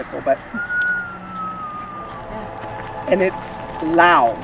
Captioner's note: whistles